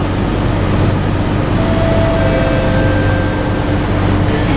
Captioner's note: station chime again